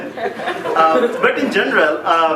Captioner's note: laughing